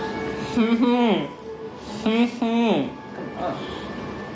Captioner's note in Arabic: يضحك